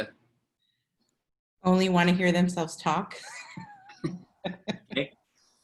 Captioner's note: laughter